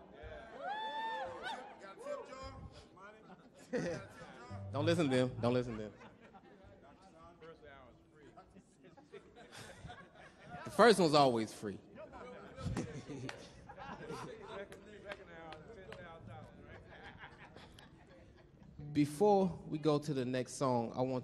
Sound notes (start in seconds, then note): 0.5 woman cheers; 3.0 chuckles; 6.2 audience laughs; 8.2 chuckles; 11.9 audience chattering; 13.8 chuckles; 15.6 laughs